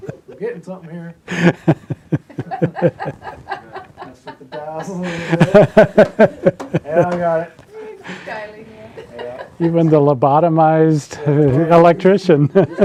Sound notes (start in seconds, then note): 1.2 laughing; 4.1 all mumbling